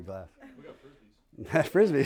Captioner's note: laughter